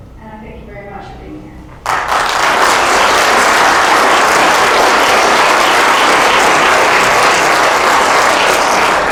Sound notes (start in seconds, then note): 1.8 applause